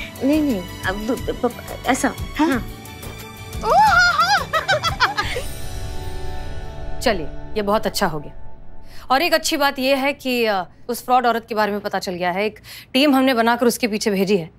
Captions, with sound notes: No, it's like this. [giggling] This is nice. And the other good news is we found that scammer. We have sent a team for her.